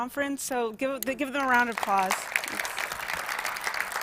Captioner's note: applause